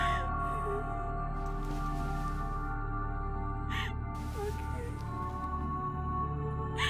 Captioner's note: ominous music; weeping